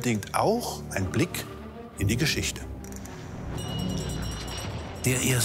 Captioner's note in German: Klingel läutet